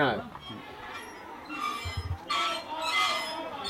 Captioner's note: swing creaks